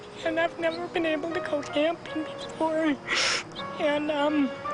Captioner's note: crying